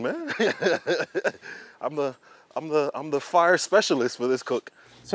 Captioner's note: laughs